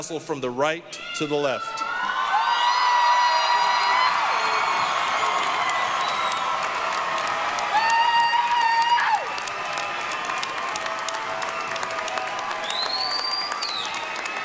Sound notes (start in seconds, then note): 1.8 applause, cheering